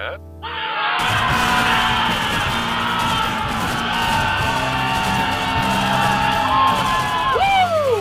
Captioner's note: excited yelling and gunshots